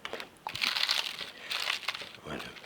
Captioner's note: pastry crackles